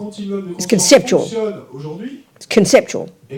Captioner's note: audience member speaks in French